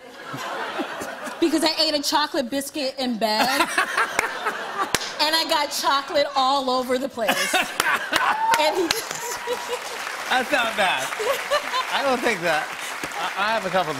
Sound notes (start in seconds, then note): 3.3 laughter; 7.2 laughs